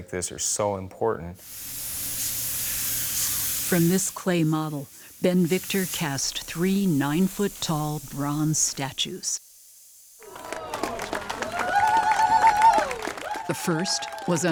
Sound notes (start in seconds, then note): 10.2 crowd applauds